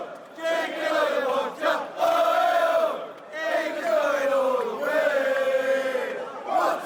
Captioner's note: chanting